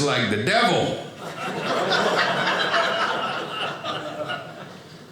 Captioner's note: audience laughing